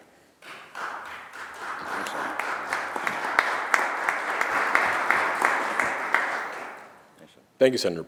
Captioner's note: applause